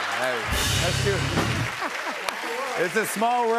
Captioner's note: laughs